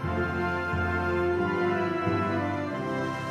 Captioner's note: none